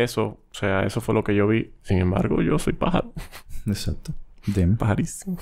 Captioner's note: laughs